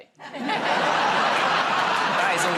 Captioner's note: laughter